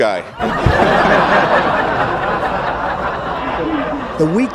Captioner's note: laughter